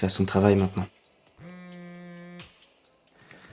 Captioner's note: cell phone vibrates